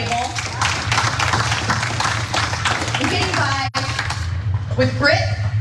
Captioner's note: applause